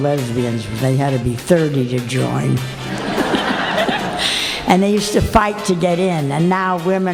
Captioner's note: laughter